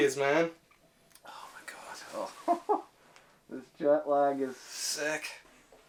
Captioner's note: laughter